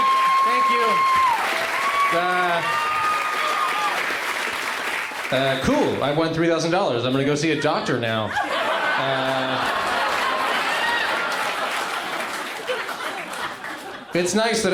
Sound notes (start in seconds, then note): 1.7 cheering continues; 8.2 laughter